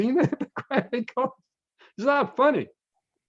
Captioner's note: laughs